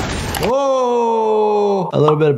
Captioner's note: Invincible grunting; echoing